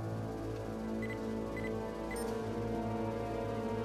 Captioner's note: beeping